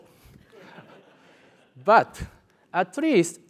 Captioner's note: laugh